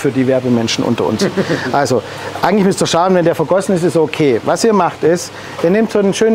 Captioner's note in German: kichern im Hintergrund